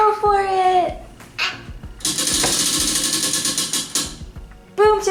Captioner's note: wheel clicks